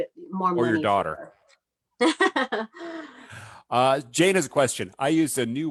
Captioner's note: laughs